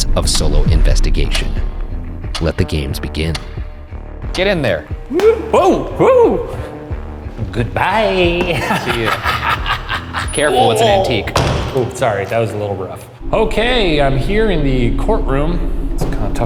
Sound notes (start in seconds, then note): 5.1 smacking; 8.4 laughing creepily